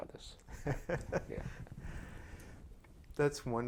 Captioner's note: laughter